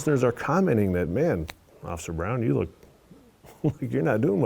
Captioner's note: laughing